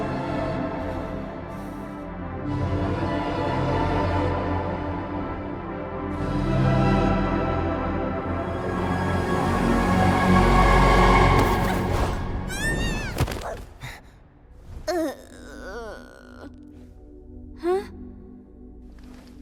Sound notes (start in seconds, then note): 12.5 wails; 14.9 gasps